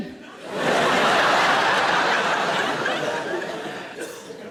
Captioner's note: audience laughing